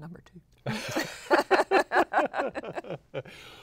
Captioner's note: laughter